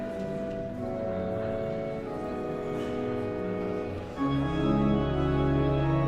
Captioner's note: guests continue chattering; elegant music continues; grand music